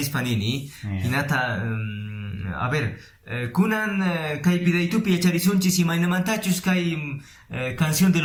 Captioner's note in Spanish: quechua